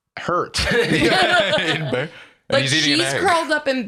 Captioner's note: all laughing